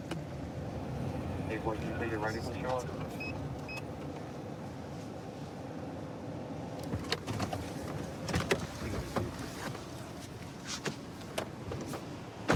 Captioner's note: indistinct dispatch speech